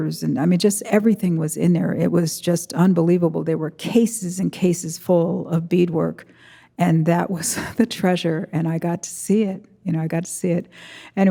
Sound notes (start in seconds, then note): 7.4 chuckles